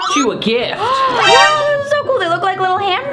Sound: gasps

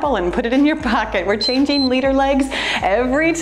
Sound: timer beeps

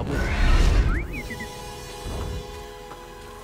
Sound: whistle, beep

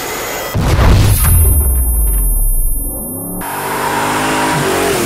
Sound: epic slow-mo explosion drift

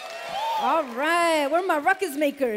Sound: cheers

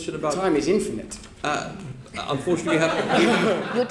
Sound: laughter

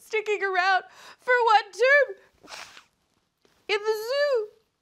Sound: blows nose

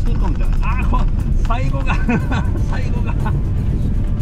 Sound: laughs

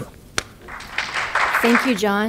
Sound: applause

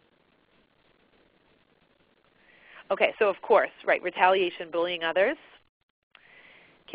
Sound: silence

